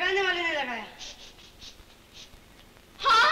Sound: sniffs

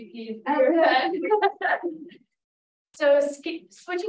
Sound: laughing

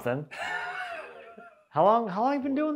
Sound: laughing

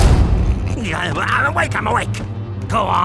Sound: grumbles

